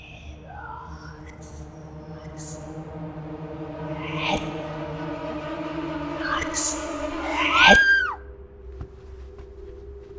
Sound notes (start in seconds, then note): 0.1 evil whispers; 0.1 suspenseful music; 7.3 screams